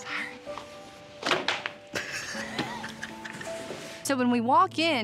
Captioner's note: roll thuds, giggling